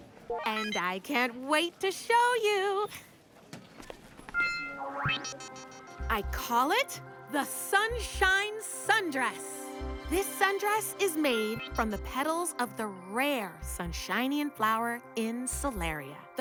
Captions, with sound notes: - And I can't wait to show you! [projector beeps] I call it, the sunshine sundress. This sundress is made from the pedals of the rare Sunshinian flower in Solaria.